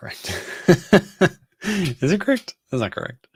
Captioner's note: laughs